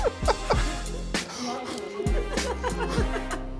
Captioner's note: exhaling; laughing